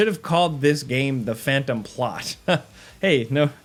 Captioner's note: laughs